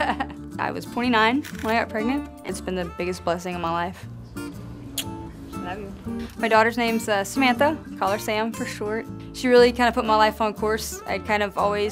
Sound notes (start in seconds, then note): 0.2 laughs; 4.9 kiss